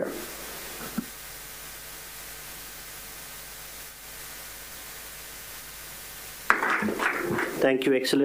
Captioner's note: applause